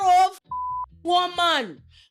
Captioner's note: beep